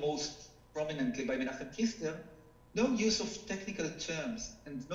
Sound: speaking foreign language

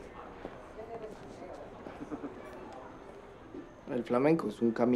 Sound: street sounds

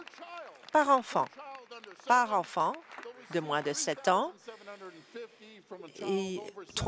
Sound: applause

